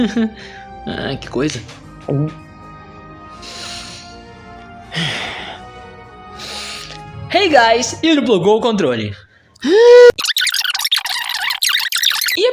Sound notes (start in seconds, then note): 1.4 gulp; 8.9 inhales